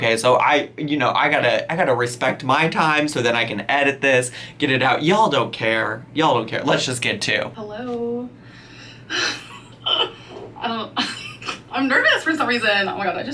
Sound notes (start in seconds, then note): 9.1 laughs